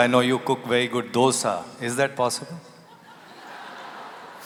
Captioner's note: laughter